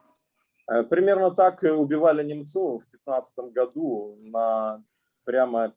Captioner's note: speaking Russian language